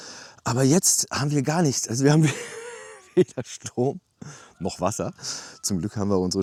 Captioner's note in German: gelächter